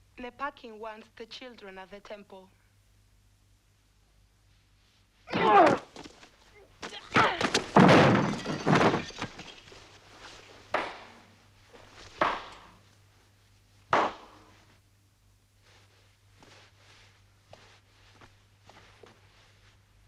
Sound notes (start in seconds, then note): 5.3 guard groans; 7.3 Tracima grunts; 11.1 Rothrar clapping